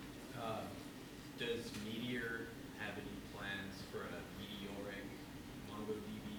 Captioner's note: voiceover